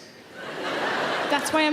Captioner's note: audience laughing